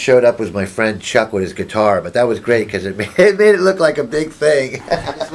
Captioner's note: laughs